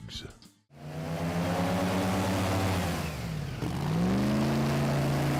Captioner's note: boat motor running